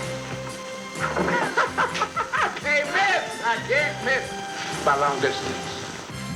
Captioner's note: laughs